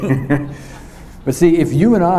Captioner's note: chuckles